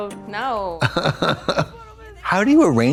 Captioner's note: Trixie chuckles